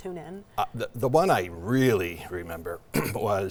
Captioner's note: clears throat